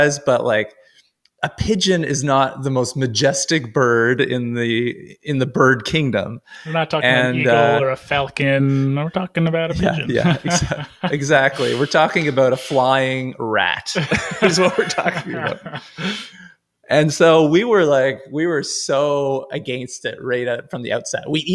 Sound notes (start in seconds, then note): 9.7 laughs loudly